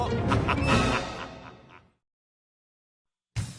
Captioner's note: laughs